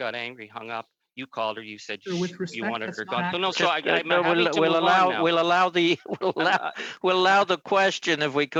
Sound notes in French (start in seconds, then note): 0.9 voix de l'interprète